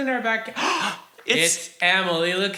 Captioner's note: both gasp